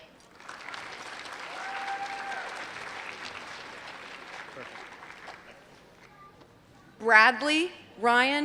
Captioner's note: applause